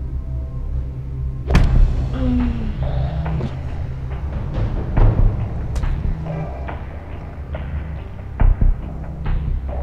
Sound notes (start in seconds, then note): 1.4 thumping; 1.9 groaning; 2.6 suspenseful music